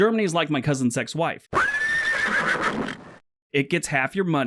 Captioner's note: horse vocalization